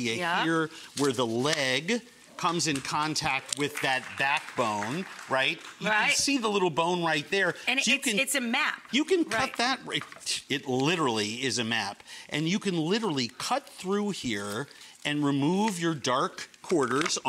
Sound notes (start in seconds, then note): 4.2 audience clapping